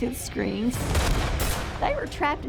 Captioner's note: gunshots